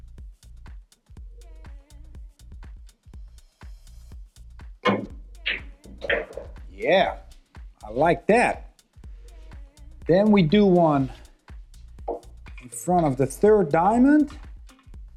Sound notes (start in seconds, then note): 6.0 billiard balls clanging